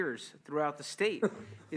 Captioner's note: laughter